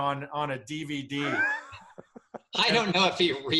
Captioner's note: laughs